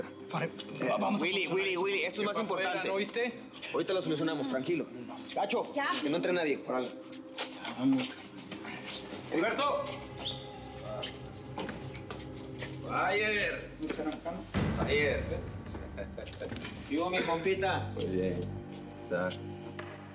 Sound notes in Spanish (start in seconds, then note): 15.9 risas